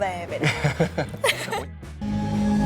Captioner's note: laugh